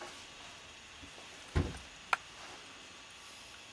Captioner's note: cupboard door shuts